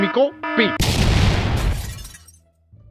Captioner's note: explosion